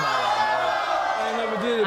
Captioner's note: audience oohs